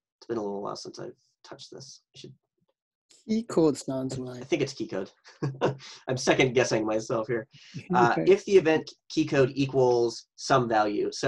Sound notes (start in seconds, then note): 5.4 laughs